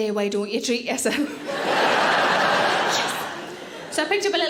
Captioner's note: audience laughing